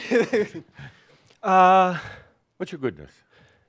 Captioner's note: chuckles